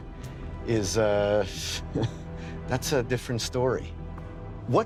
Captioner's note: chuckles